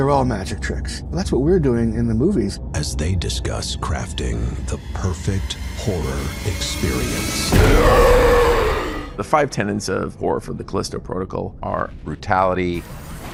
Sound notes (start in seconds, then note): 9.4 monster growls